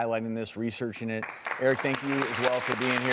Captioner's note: audience applause